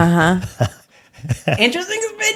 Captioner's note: laughing